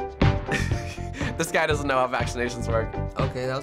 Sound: chuckling

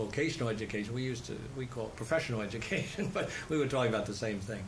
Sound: laughs

